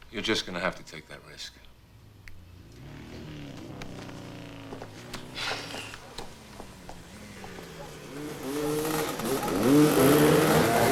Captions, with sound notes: - You're just gonna have to take that risk. (motorcycle engines revving)